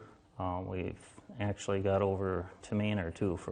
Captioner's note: voiceover